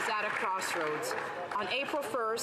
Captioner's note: some Applause